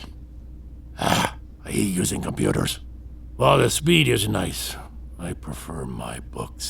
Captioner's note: disgruntled